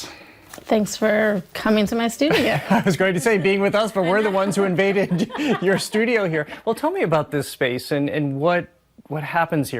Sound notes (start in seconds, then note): 3.0 laughing